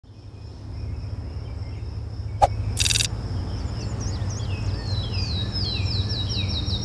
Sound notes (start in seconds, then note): 0.6 birds singing